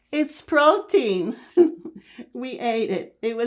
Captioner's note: laughing